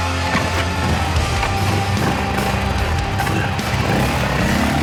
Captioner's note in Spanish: Ruido de la moto